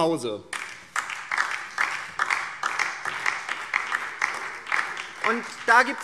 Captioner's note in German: Beifall DIE LINKE und vereinzelt SPD